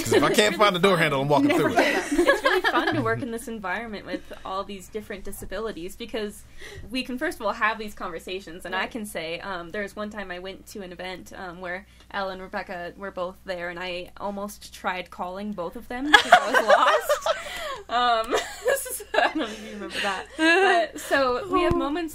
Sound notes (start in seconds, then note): 16.1 all laughing